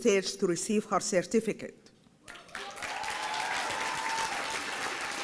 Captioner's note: applause